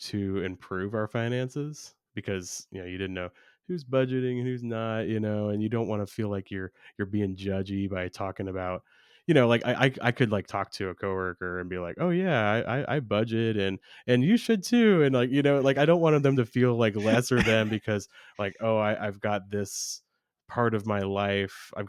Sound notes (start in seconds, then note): 16.9 laughs